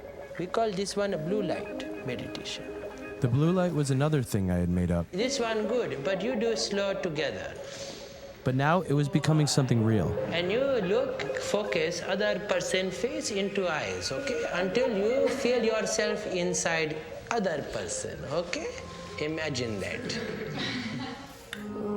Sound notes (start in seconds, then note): 7.6 inhales; 7.6 吸气; 19.8 students Chuckle; 20.0 学生轻笑